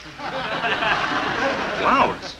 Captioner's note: audience chuckling